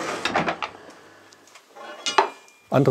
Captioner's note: rattling stops; metal clanging